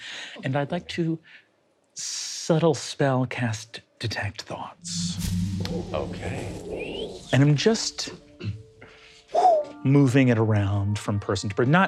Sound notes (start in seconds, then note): 8.3 imitates air whooshing